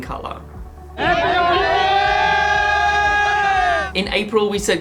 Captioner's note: shouting